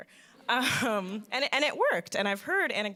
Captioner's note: chuckles